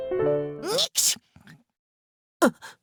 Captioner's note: sneeze; gasp